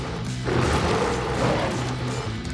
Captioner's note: roars